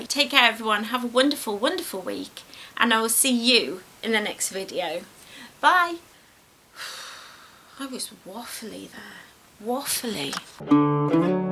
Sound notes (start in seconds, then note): 6.8 sighs; 10.6 gentle folk music plays